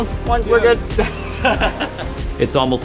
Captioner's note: laughter